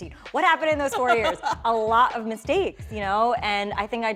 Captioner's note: laughs